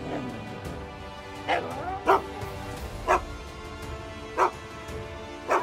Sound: Willamina barking; upbeat music

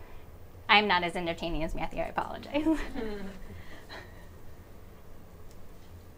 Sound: chuckles

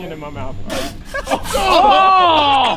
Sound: juice spews

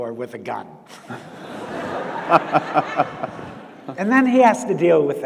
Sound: audience laughs

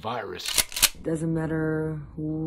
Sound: cocking gun

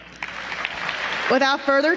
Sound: applause

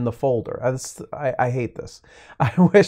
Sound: chuckles

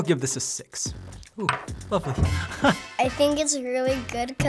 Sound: laughter

